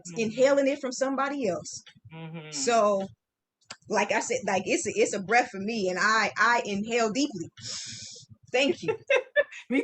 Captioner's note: inhaling deeply